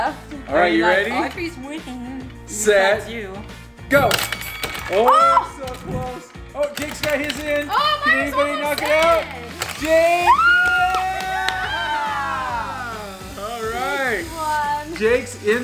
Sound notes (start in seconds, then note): 10.2 applauding